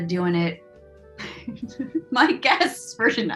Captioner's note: laughs